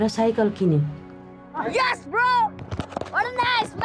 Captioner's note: kid shouting